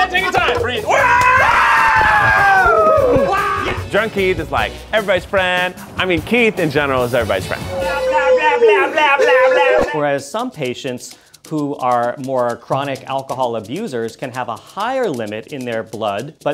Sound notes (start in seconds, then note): 0.8 cheering